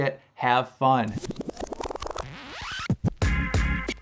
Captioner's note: digital effects; upbeat music